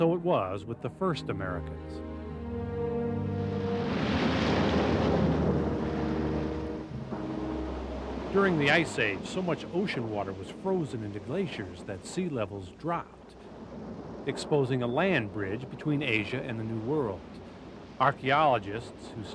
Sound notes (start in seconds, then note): 2.7 glacier crashes